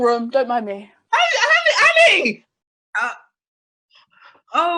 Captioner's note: shouts